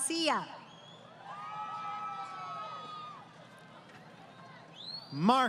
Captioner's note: crowd Cheering